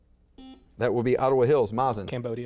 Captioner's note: buzzer beeps